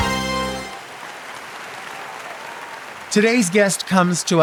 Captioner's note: audience applauds